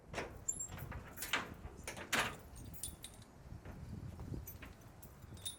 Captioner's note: keys and lock clinking